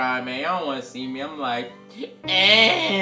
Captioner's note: cries